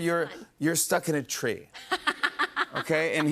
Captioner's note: laughs